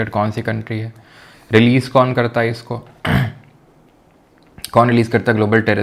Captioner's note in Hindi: गला साफ़ करने की आवाज़